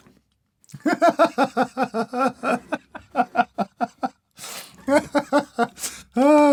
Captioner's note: more and more laughter